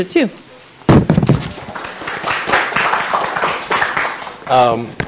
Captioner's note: applause